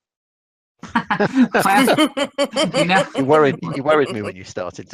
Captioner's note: laughs